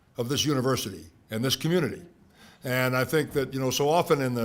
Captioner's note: none